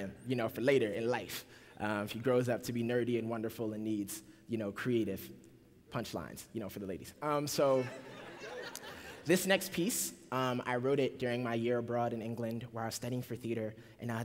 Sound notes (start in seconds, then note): 7.7 laughter